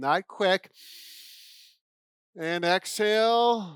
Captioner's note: inhales